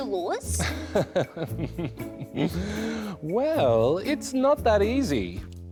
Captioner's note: chuckles